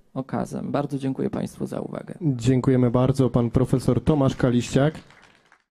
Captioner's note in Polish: oklaski